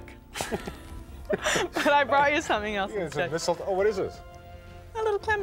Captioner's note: both laugh